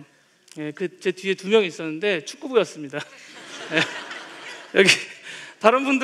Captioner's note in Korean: 웃음